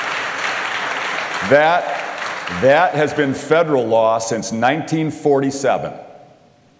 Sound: applause

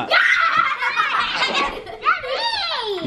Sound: laughter

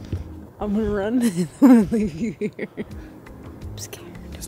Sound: laughs

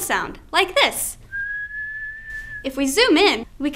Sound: whisteling

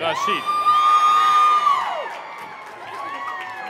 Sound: cheering

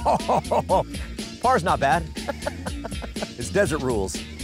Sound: laughs; laughs

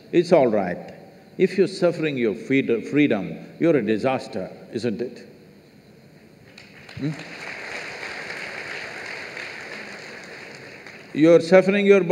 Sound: applause

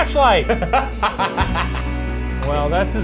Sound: laughs

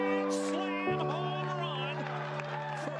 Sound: applause

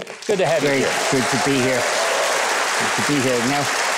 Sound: audience clapping

